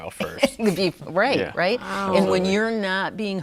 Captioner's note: laughs